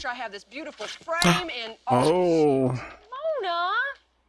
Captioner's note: gasp